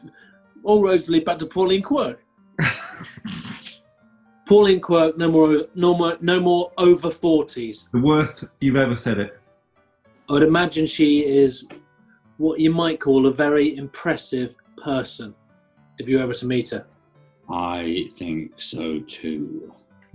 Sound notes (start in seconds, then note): 2.6 laughing